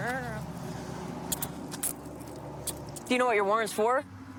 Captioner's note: handcuffs clicking